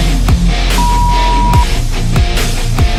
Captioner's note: upbeat music; beep